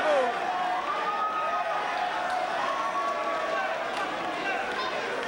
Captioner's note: spectators cheering